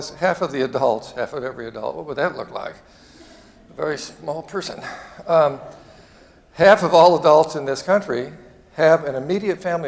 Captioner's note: chuckling